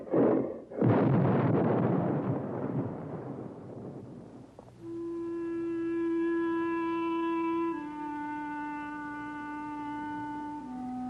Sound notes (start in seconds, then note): 0.0 explosion booming; 5.1 suspenseful music